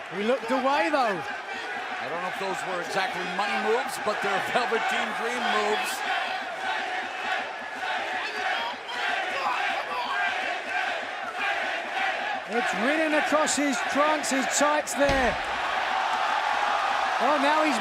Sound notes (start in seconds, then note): 7.0 crowd cheering